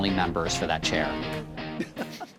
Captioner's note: laughs